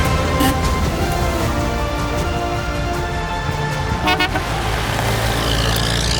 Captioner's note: horn honking